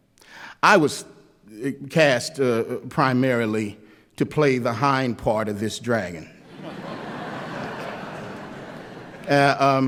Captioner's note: laughter